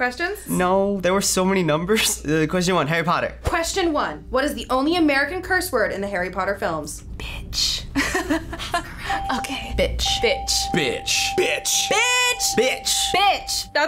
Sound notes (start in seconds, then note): 6.9 whispering; 8.0 laughing; 9.1 FBE whispering